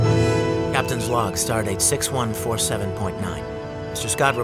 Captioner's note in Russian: голос за кадром